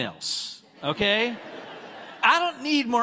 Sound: congregants laughing

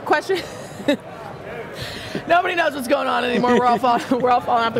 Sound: laughs

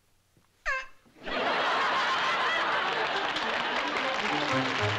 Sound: honk

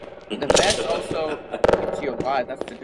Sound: laughter

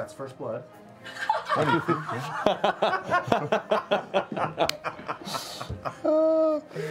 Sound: laughter

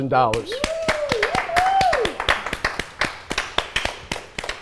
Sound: all applauding

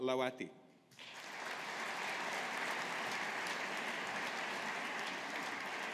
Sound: audience applauding

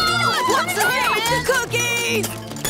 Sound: screaming

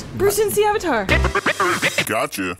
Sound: spectacular record scratch

